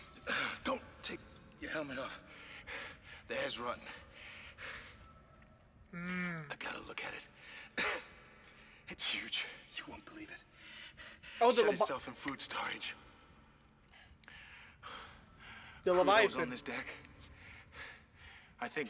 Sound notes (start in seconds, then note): 3.8 more intense breathing; 7.7 cough; 13.8 breathing